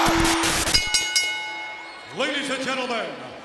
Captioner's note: bell rings